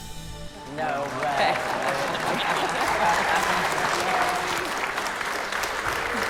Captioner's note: applause